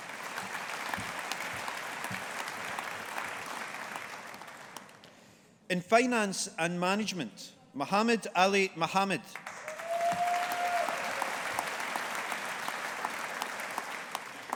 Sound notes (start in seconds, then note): 0.0 audience applauding; 9.3 audience applauding